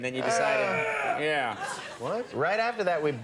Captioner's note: guttural shout from audience